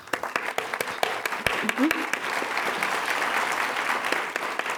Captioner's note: applause